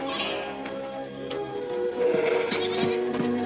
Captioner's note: bleating